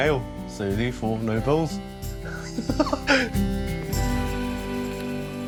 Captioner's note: laughs